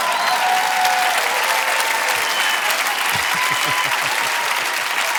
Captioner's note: audience applauding; chuckling